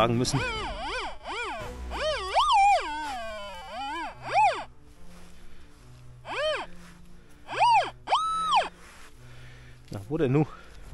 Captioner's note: squeaks